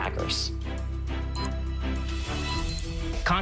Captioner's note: machine beeps